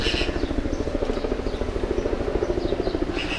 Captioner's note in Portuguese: som de pássaros